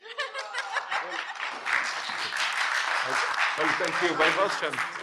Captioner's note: audience applauding